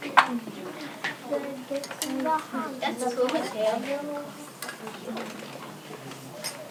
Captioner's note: children talking and working with materials